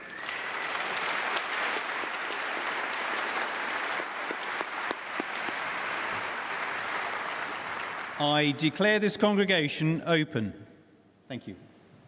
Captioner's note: applause